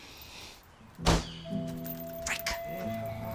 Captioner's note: door slamming